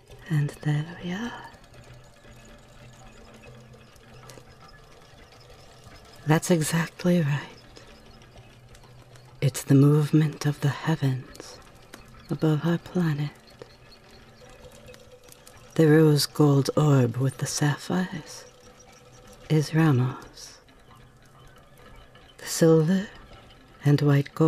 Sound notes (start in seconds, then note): 3.0 clockwork whirrs in the background